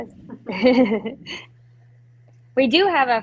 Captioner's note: laughing